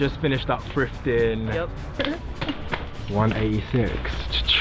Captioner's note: laughing